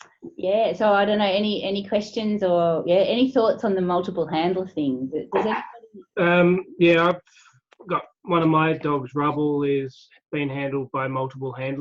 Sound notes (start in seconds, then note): 5.4 dog barks